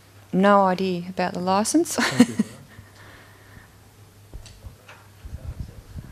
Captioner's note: chuckles